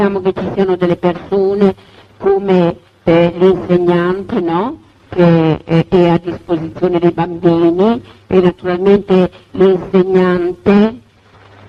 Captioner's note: audio interruption